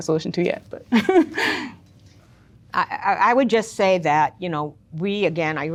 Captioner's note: laughs